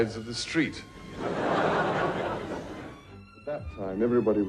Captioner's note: audience laughs